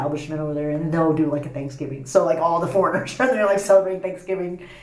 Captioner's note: laughs